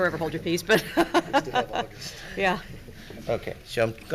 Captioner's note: laughs